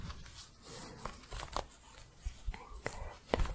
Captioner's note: scratching